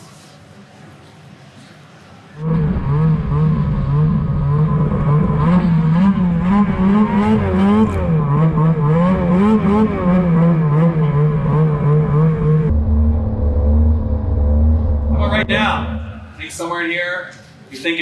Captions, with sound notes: (snowmobile engine whirring) All right now I think somewhere in here